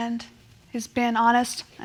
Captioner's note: none